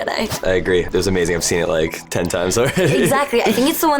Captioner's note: laughing